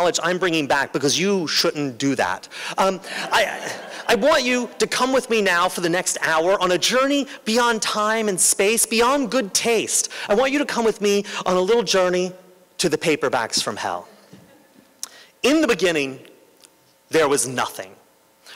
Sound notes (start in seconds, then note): 3.1 laughter